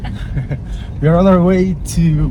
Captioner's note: laughing